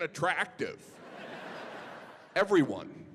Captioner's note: audience laughing